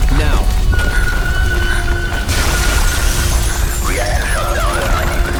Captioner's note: devastation roaring